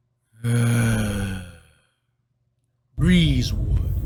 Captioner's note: disgruntled grunt